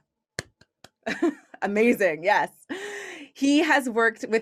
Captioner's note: chuckles